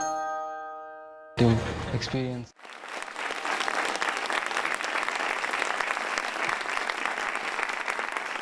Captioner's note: applause